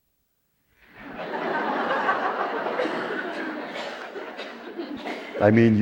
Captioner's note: laughter